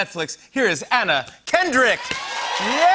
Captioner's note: cheers and applause